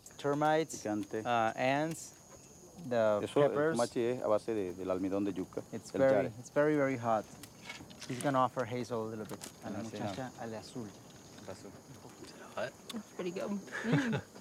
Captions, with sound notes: Termites, ants, the peppers. [speaking foreign language] It's very, very hot. It's gonna offer Hazel a little bit. - That's pretty good.